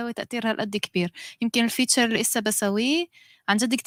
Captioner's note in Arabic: لغة أجنبية